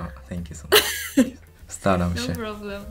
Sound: Polish

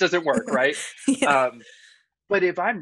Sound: laughing

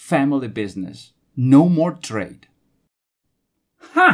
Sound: silence

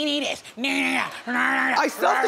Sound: grumbling

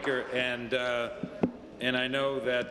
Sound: applause

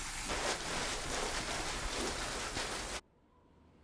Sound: plastic rustles; muffled wind whistles

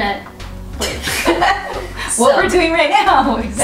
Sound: laughter

